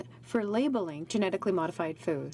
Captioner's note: speaking french